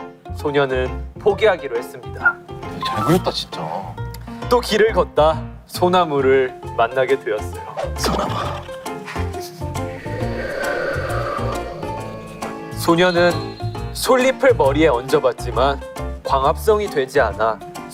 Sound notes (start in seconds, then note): 9.8 A sound effect of wind